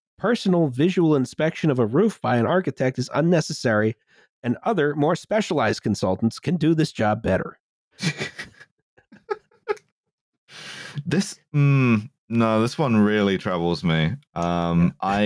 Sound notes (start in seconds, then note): 8.0 laughs